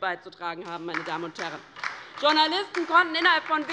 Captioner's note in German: Beifall bei der LINKEN